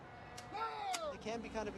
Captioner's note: shouting